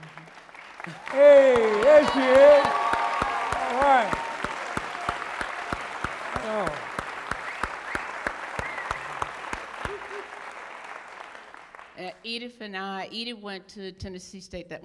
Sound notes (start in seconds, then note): 4.3 applause